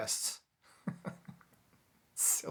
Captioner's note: chuckles